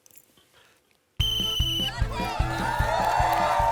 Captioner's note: blows whistle